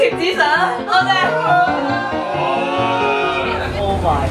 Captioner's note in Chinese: 不滿的聲音